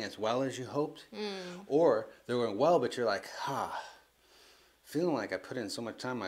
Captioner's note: sighs